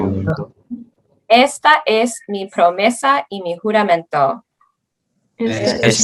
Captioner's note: speaking Spanish; group speaking Spanish